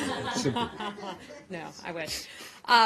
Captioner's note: laughter